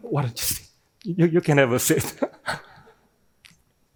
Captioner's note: laughing